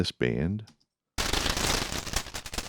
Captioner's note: crashing